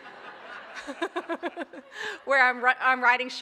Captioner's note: laughing